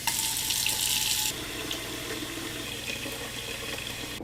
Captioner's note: stove top clicking; water swooshing